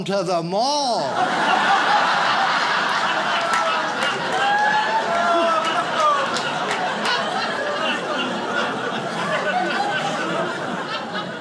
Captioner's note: audience laughs